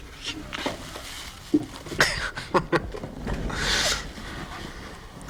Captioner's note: Sarah gagging; Jessie laughing